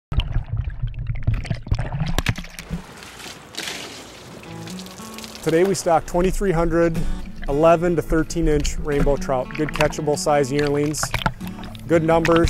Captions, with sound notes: [sound of fish swimming] [water dripping from net] Today we stocked 2,300 11 to 13-inch rainbow trout, good, catchable-size yearlings, good numbers,